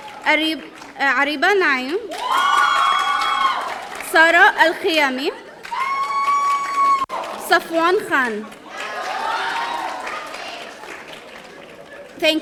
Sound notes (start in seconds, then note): 2.0 audience cheering; 5.4 audience cheering